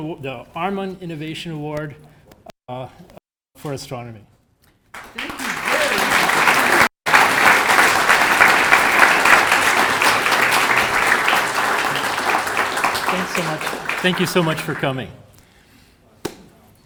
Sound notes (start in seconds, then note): 7.6 audience applauding